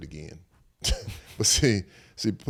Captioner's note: Eric chuckles